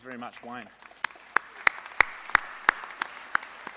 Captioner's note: applause